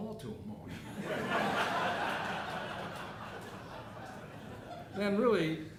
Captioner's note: audience laughing